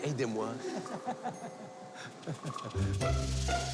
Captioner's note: Rires